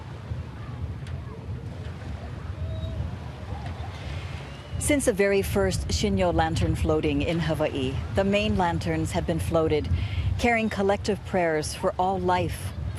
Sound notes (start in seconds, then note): 0.0 waves lapping on shore; 3.3 background chatter